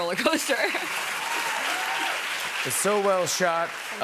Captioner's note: cheers and applause